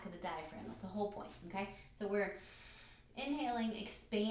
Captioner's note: breathes in